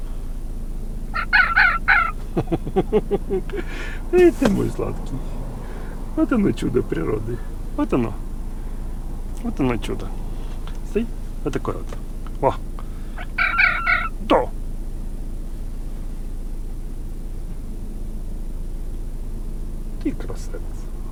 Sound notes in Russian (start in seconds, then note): 3.6 Смеется